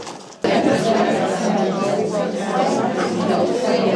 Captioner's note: reading out loud